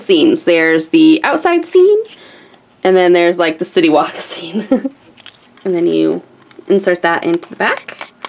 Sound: laughs

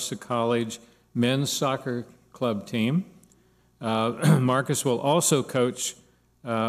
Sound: clears throat

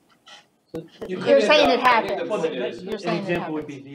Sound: audience chattering, indistinct

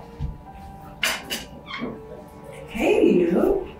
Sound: chair slamming; door creaking

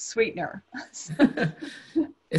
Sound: laughter

